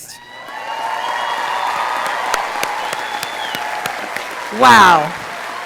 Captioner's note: audience cheering